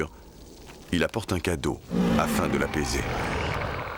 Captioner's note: snarls